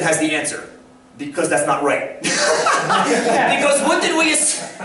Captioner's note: brief laughter